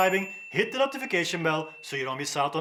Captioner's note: bell dings